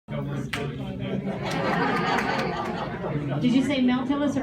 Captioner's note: audience talking, laughing